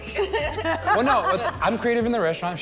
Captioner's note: laughs